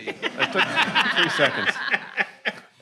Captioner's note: attendees laughing